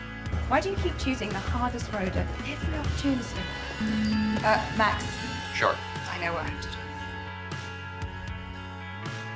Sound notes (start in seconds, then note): 3.8 phone buzzing